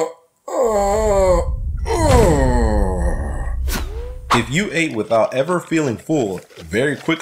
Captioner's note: groans